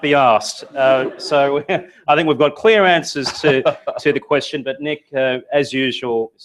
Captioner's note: laugh; laugh